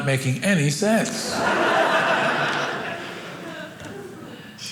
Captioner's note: audience laughing